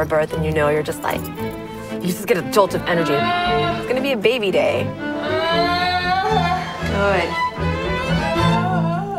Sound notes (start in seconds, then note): 5.1 screaming